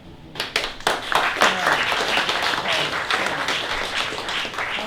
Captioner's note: applause